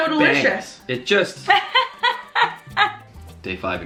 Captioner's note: laughs